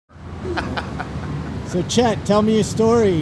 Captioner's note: laughs